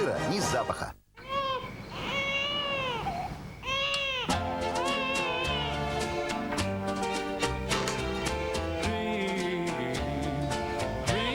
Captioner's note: crying of a child